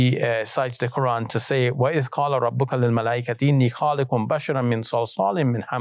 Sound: speaks in Arabic

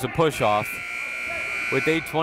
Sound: buzzer

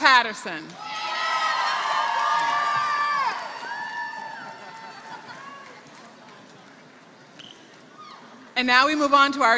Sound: applause

